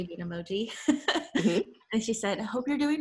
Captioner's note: laughs